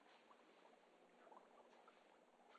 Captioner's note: liquid bubbling